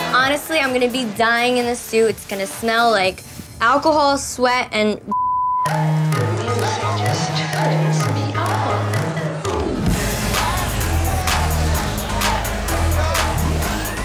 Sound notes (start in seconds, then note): 5.1 beep; 5.6 uptempo dance music